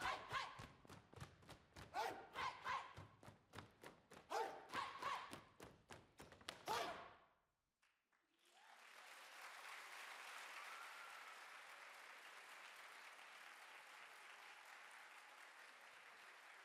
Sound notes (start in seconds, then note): 8.2 audience applaud